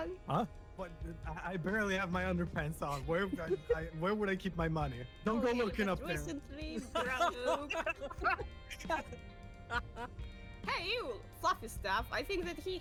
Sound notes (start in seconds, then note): 6.0 not so all-powerful giggling; 6.6 laughs; 6.8 all-powerful giggling; 9.5 laughs